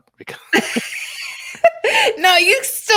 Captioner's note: laughing